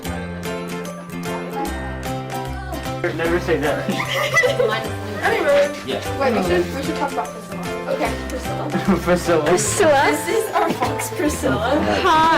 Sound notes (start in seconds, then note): 3.7 laughter; 5.4 cheery music